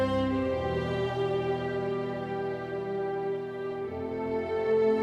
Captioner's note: none